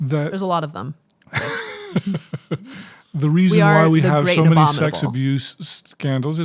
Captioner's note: chuckling